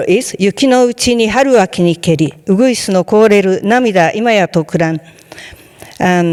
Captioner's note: speaking in foreign language